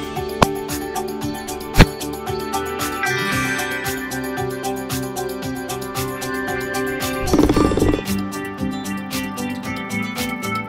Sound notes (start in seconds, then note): 0.0 baseball bat clanging; 1.7 ball landing; 7.4 golf ball clinking